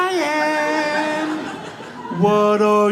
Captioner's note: audience laughs